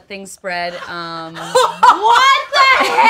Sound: laughs

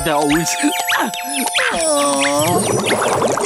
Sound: groaning

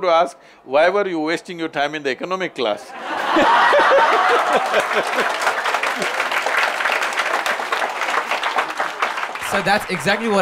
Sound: laughter/Applause

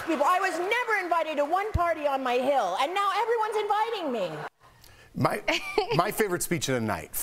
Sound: laughter

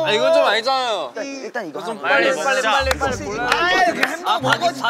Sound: grumbling

